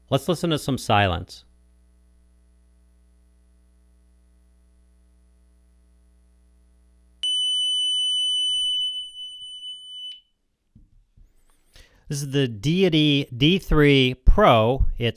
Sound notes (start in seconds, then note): 7.2 tone generator beeping